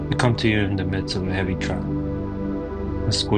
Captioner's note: speaking in foreign language